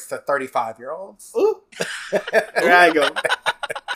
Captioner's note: laughs